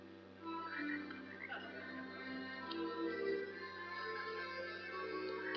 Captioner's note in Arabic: نقيق الضفادع